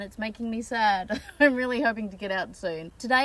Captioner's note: chuckles sadly